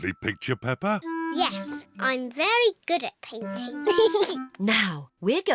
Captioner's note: giggles